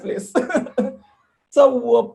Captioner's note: laughs